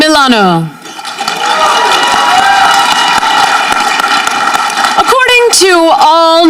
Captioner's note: audience cheering